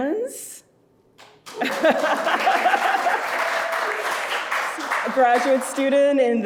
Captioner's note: audience applauding